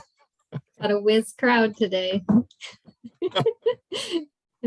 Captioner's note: laughing